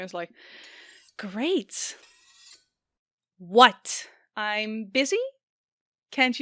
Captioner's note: sarcastically